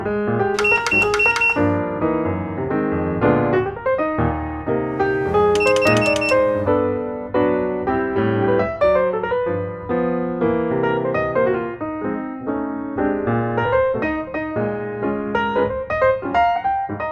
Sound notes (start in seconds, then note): 0.5 click 4 times in a row